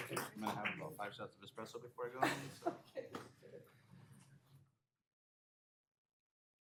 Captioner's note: applause